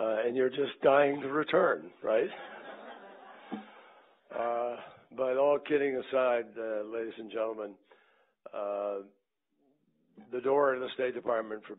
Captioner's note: laughter